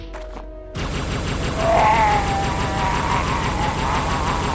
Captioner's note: alien regret cry